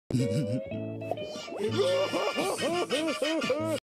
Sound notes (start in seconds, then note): 0.1 snickering; 1.6 starts laughing